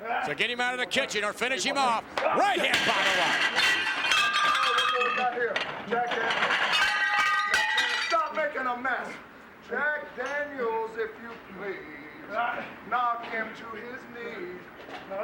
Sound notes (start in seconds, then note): 2.6 dishes clanking